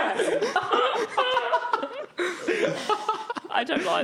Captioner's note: laughing